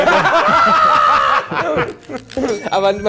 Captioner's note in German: Lachen